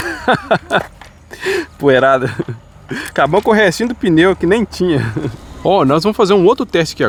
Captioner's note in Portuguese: risadas